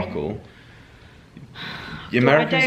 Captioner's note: sighs